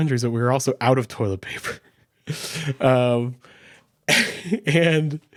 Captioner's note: chuckles